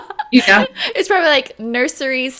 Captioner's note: laughing